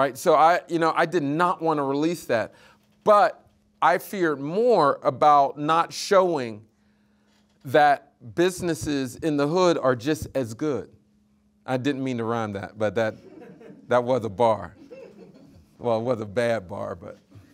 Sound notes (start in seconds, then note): 13.3 audience laughing